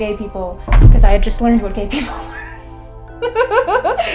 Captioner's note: laughs